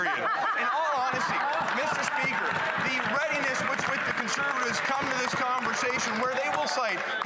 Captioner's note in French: voix de l'interprète